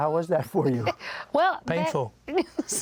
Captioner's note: laughter